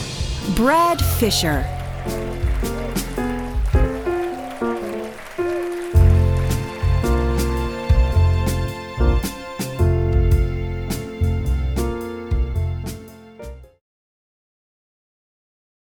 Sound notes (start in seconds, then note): 0.6 applause